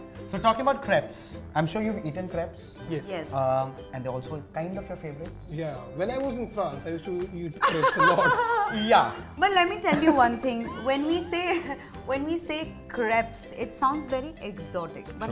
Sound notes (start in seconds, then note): 7.6 chuckles; 8.8 fake french accent